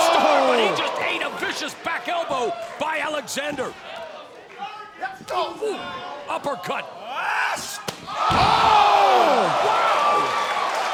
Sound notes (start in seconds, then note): 7.4 shouting; 10.7 crowd cheering